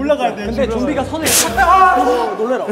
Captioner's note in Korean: 갑작스런 괴성